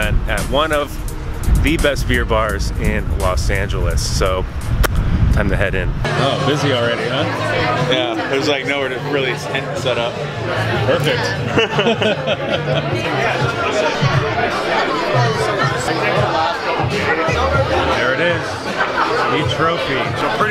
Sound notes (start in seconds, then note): 11.4 laughing; 13.5 bar patrons chattering